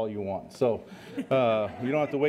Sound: laughter

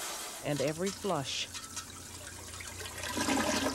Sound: water reverberating; toilet gurgling

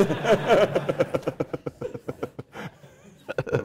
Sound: laugh

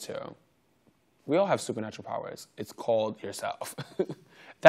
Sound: giggles

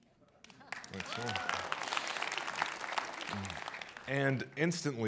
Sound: audience applauds

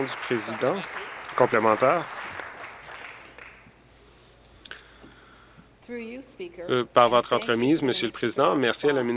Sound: applause

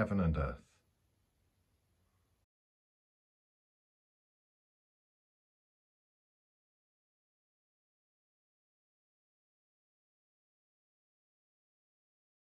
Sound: A period of silence for reflection on the past day

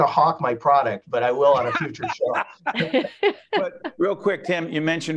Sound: laughing

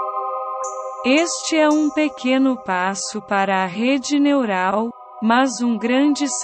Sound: Google Translator's Voice

